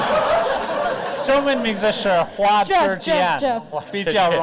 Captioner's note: audience laughter; speaks Mandarin